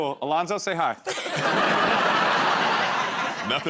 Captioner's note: laughter